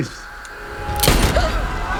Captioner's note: gunshot